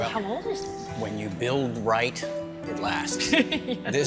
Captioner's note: laughs